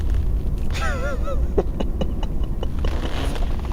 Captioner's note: laughs